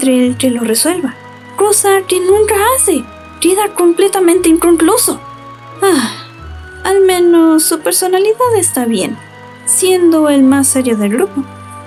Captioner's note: sigh